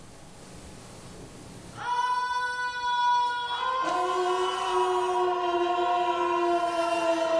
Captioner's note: shouting